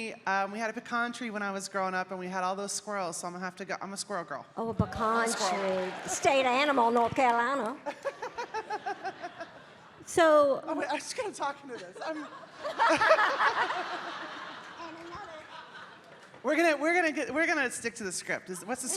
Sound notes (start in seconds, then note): 7.8 Bridget laughing; 11.7 audience laughing